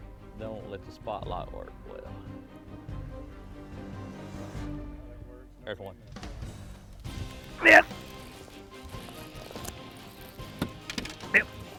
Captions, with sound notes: - That don't let the spotlight work well. There's one. (grunting)